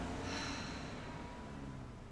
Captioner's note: sighs